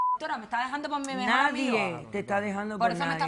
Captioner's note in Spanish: Bip